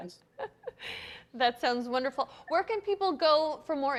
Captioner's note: laughs